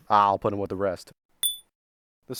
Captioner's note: dink